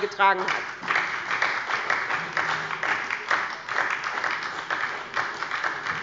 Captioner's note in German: Beifall bei der SPD